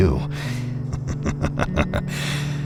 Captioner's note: Houston chuckles